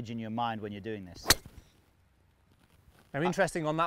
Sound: club striking ball

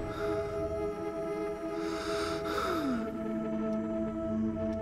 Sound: gasps

